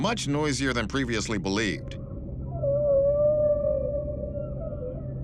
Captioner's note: whale song